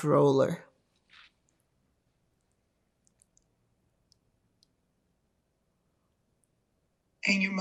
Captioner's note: pauses 6 seconds